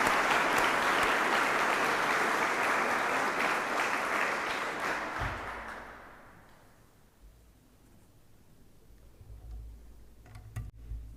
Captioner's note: applause